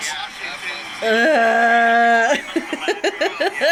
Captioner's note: laughing